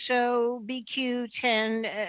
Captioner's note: speaking French